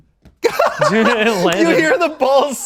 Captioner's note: laughs